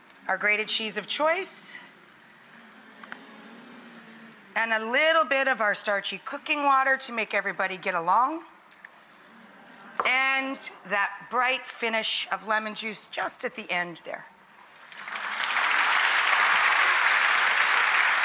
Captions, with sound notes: our grated cheese of choice, (audience moaning) and a little bit of our starchy cooking water, to make everybody get along, and that bright finish of lemon juice, just at the end there. (audience clapping)